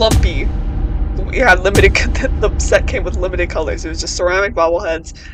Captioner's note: stutters